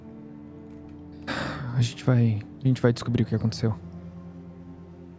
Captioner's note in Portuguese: suspiro